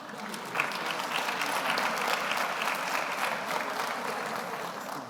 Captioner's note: audience applauds